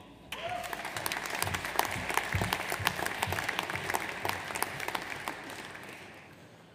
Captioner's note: audience cheers; audience applauds